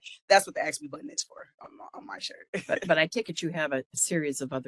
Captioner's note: laugh